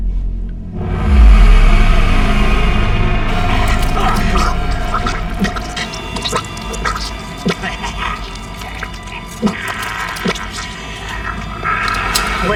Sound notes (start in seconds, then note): 1.6 dramatic music; 3.3 flesh squelching; 3.3 agent choking; 9.9 Torrez laughs